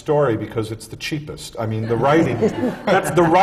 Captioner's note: laughter